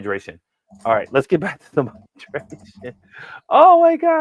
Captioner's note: chuckling